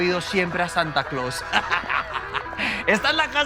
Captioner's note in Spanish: Risas